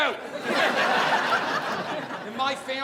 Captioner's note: audience laughing